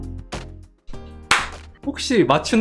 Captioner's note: clap!